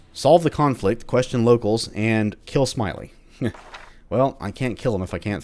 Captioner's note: journal closes